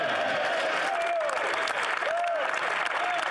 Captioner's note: speaking French